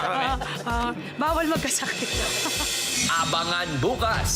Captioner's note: laughs